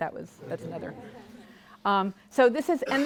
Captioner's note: audience laughing